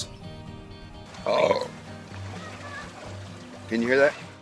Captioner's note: burps